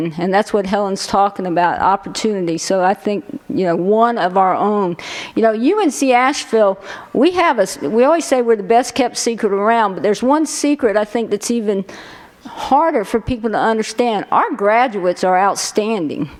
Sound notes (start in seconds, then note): none